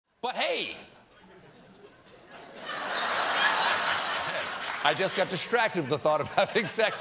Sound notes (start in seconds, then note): 2.2 laughter